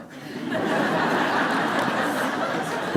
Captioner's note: laughter